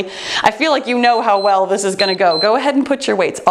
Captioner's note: timer beeps